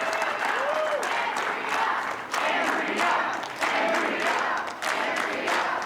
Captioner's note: cheers and applause